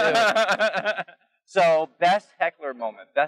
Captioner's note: laughs